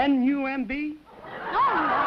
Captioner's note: laughter